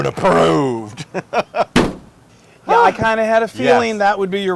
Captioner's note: laugh